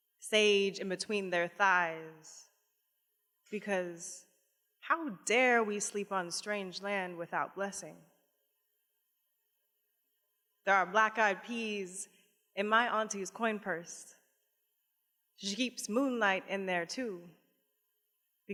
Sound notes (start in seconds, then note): none